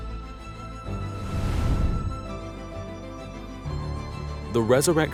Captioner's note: graphics whooshing